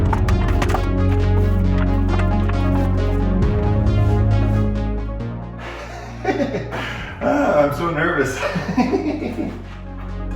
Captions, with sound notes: (laughing) Ah, I'm so nervous. (laughing)